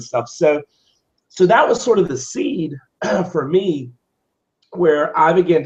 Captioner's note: cough